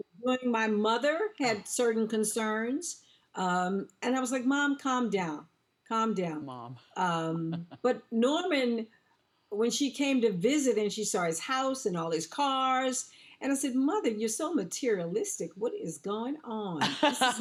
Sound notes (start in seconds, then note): 7.4 Wendy laughs